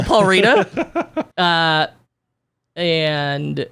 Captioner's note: laughing